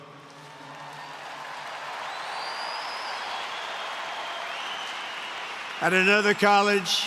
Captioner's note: applause